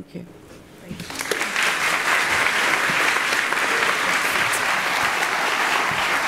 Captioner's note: applause